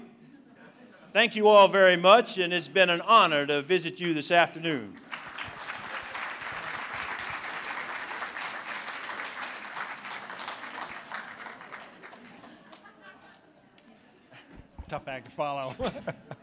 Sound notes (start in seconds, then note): 4.8 applause; 15.6 laughter